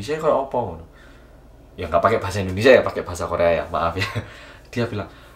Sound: laugh

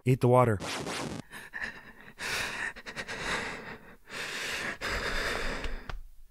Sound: dolorous, laboured breathing

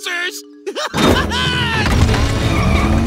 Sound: laughing

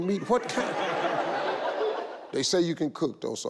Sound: all laugh

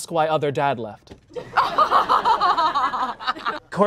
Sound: laughter

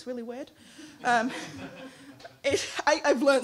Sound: laughing

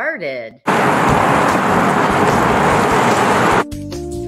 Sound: waves crashing; light music

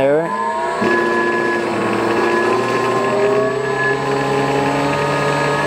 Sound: machinery whirring louder

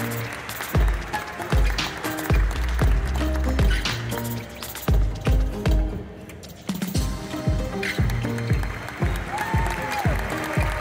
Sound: audience stomps with their feet on the metal stands; applause; ♫ Midtempo guitar music ♫

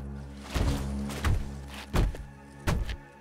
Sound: tromping footsteps

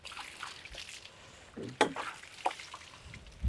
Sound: water sloshes

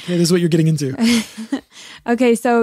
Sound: both laughing

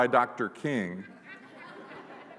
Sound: laughter

